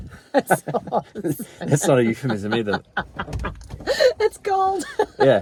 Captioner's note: laughing